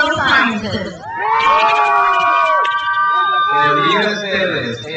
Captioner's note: crowd cheers